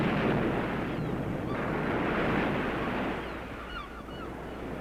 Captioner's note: birds squawking